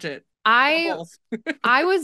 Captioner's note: laughs